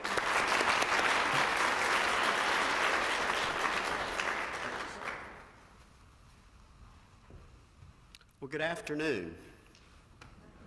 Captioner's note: applause